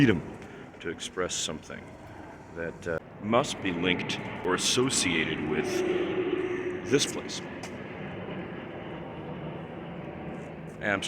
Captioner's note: airplane overhead